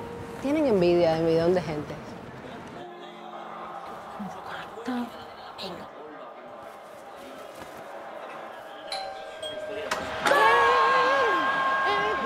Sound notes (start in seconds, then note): 5.8 sound of football on TV; 9.0 doorbell